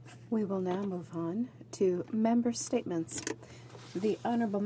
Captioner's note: speaking in french